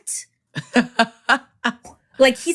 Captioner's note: laughter